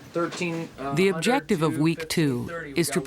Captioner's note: voiceover